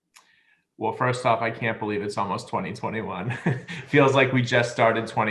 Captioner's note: laugh